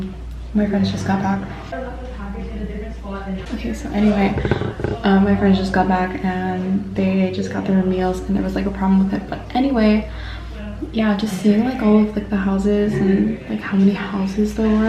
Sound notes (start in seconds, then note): 1.6 friends talking